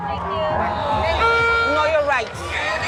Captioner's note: alarm sounds